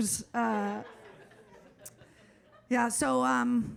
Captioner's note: audience laughs